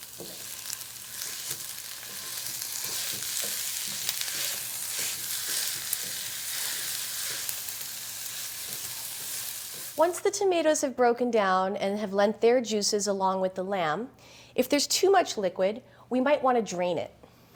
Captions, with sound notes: [sizzling sounds] Once the tomatoes have broken down and have lent their juices along with the lamb... ...If there's too much liquid, we might want to drain it.